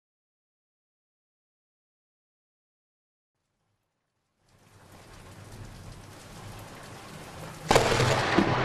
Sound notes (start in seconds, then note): 4.6 thunder rumbling